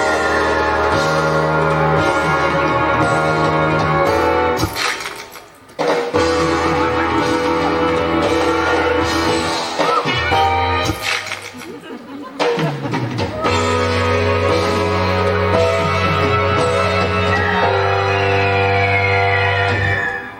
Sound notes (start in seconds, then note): 0.0 dramatic entrance music; 4.6 camera click; 6.1 dramatic entrance music; 11.0 camera click; 13.2 dramatic entrance music